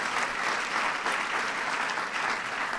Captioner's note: applause